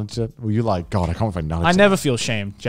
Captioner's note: murmurs